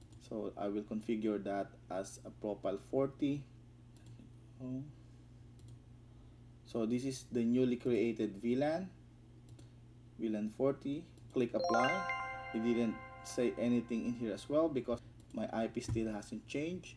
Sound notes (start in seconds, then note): 3.5 clicks